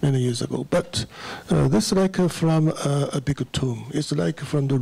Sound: foreign language

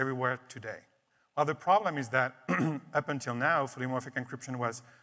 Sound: clears throat

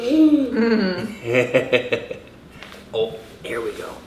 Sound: laughs

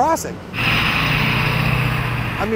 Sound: bus brakes, accelerates

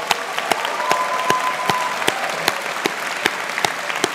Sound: audience cheers

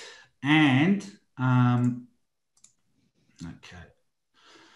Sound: computer mouse clicking softly

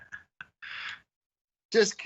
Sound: laughter

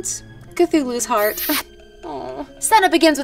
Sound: smacking lips

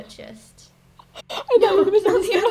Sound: quiet laughs

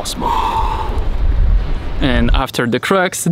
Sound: exhales

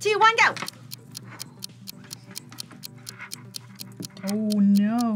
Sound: clock ticking

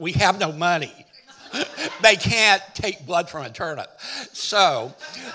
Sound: chuckling

